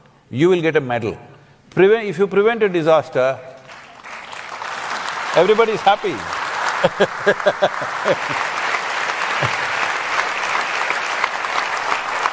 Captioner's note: applause; laughs